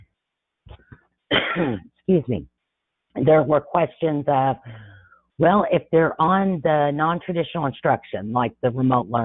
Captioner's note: coughs